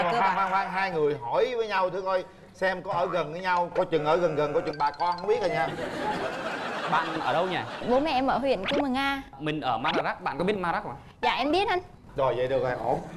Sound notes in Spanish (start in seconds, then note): 5.6 risas